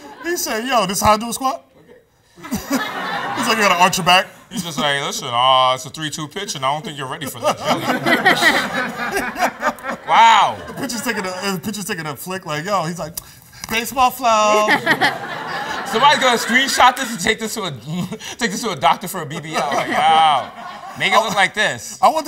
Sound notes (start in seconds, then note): 2.4 laughs; 7.2 laughter; 14.4 laughs